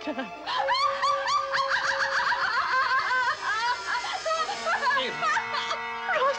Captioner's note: Evelyn laughs hysterically